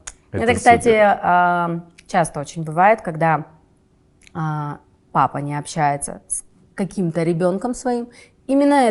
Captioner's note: laughs